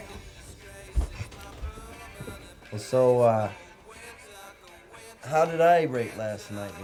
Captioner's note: chuckles